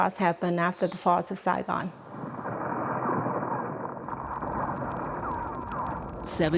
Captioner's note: artillery shells and explosions